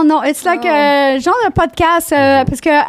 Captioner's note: in french